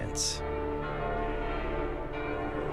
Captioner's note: bells toll